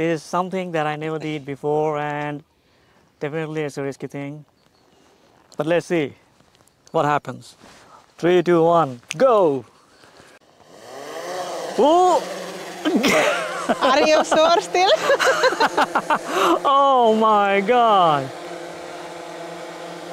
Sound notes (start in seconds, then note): 16.2 laughing